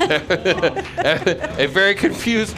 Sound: laughing

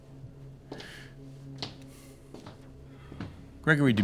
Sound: foot steps approaching

